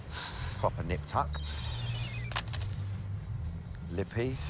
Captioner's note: sighs; cell phone beeping